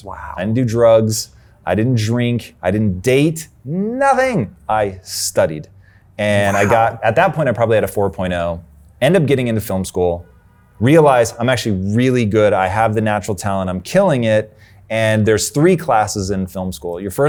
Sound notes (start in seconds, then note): 6.4 laughs